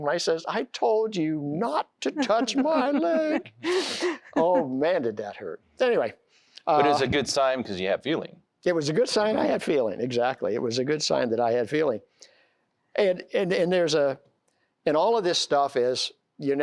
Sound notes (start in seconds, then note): 2.0 giggling